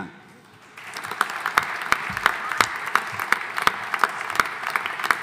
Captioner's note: audience applauding